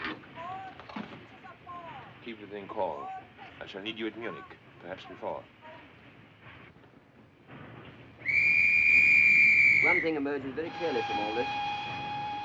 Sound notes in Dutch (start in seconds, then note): 8.2 fluitje blaast; 10.6 treinfluit blaast